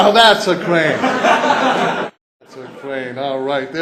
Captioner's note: laughter